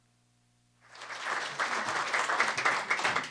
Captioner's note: applause